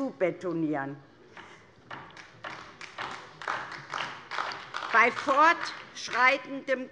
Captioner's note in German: Beifall DIE LINKE